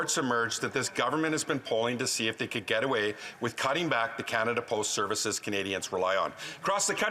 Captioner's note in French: voix de l'interprète